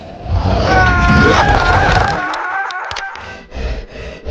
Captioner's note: screaming; squishing; creature panting; brooding music